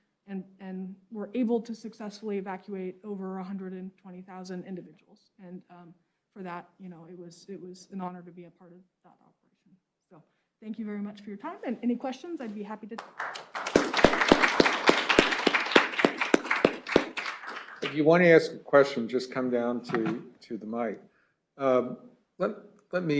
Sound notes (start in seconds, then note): 12.9 applause